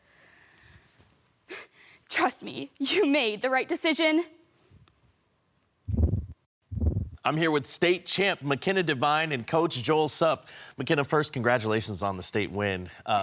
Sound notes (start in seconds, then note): 0.0 soft breathing; 4.6 silent; 5.9 whoosh